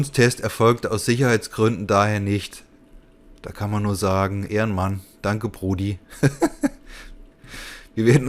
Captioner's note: laughs